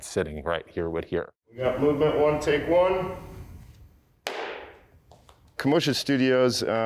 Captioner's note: claps